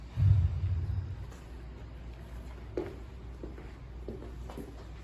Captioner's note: inhale; exhale